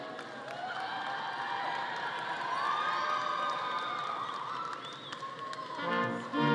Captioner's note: audience cheering and clapping; upbeat music